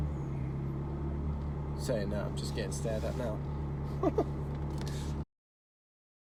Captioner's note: laughs